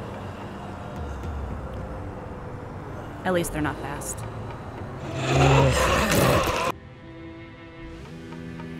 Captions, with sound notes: At least they're not fast. (zombies roaring)